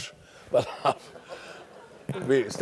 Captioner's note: laugh